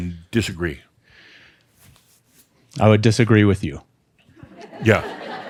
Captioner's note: some laughter